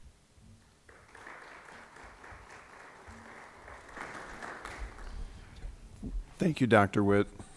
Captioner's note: applause